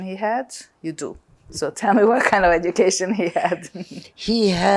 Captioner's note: laughing